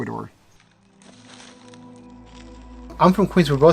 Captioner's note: leaves shuffling